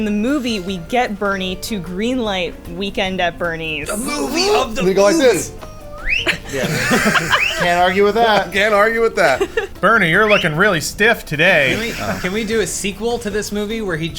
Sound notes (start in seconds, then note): 5.6 whistles; 6.0 laughing